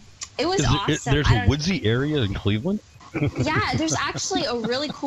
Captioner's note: laughs